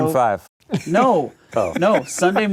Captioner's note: laughing